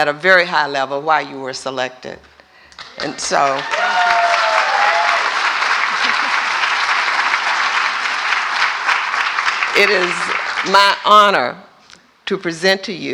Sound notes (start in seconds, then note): 9.8 applause